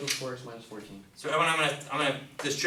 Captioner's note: voiceover